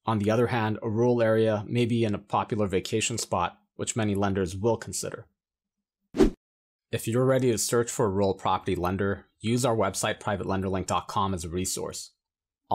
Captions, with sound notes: On the other hand, a rural area may be in a popular vacation spot, which many lenders will consider. (air wooshes) If you're ready to search for a rural property lender, use our website, PrivateLenderLink.com, as a resource.